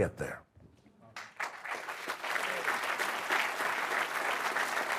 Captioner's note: audience clapping